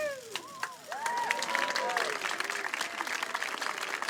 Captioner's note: crowd applauds and cheers